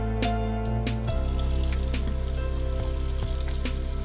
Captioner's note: water rushing